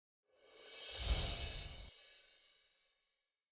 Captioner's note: chiming